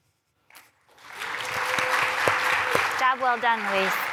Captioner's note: applause